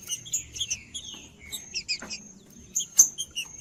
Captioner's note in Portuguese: trinca ferro cantando